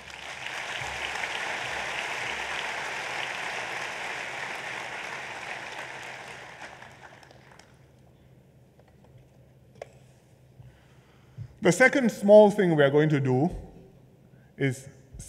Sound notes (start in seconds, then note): 0.0 applause